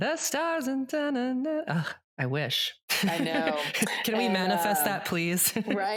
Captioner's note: laughs